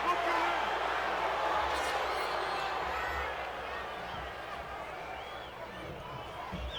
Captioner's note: crowd boos